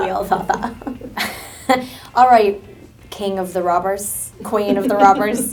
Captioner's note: chuckles